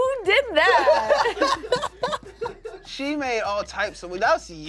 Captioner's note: cast laughs